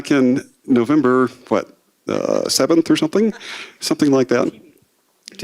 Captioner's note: laughter